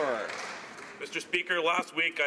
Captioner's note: some Applause